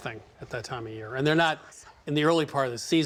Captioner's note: whispers